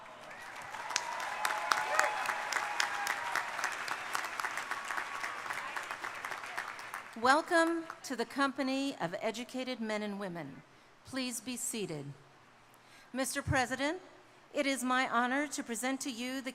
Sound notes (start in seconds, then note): 0.0 audience members cheering; 0.0 crowd cheering; 5.3 people chattering